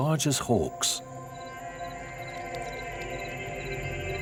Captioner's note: insects chirping